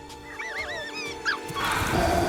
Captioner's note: squeaking